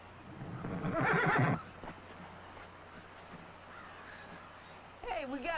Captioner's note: horse whinnying